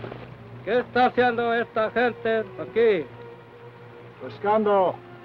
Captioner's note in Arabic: الرئيس يتحدث لغة أجنبية